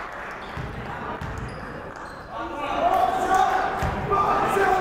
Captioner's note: yelling